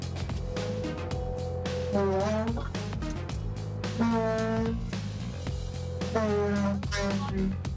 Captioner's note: arch creaking as it slides down forklift forks